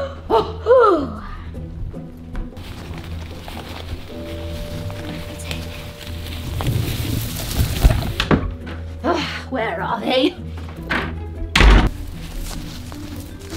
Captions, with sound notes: [Jester sighs] [grass rustles] Ugh, where are they?